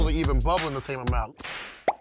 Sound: bubble popping sound

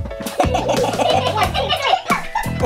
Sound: children laughing

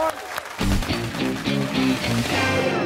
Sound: cheers and applause

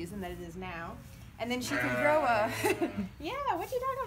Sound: sheep baas over talking

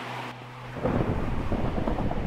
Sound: thunder rumbles in the distance

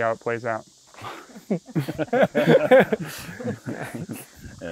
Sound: laughter

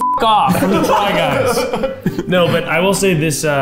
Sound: beeps; group laughing

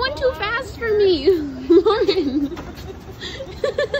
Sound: laughs

